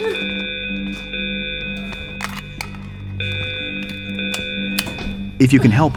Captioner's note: screaming, emergency alarm sound